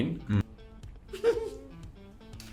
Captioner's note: laughs